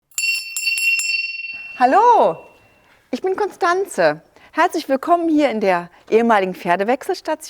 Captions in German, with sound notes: (Klingeln) Hallo, ich bin Constanze. Herzlich willkommen in der ehemaligen Pferdewechselstation